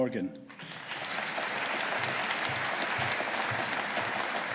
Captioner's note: audience applauding